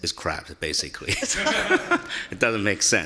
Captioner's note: laughing